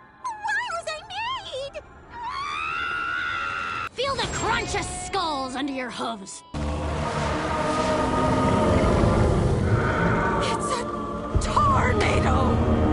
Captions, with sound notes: Why was I made? [screaming] Feel the crunch of skulls under your hooves? It’s a Taurnado!